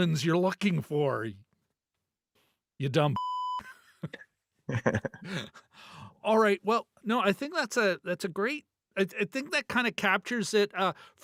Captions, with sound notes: villains you're looking for, you dumb (beep) (laughing) All right, well, no, I think that's a great, I think that kind of captures it.